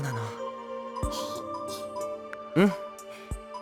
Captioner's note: chuckle